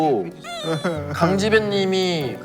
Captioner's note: crying